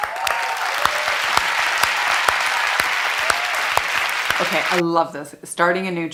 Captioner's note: audience applauding and cheering